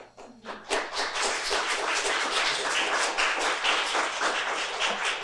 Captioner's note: audience clapping